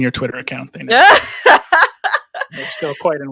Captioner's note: laughs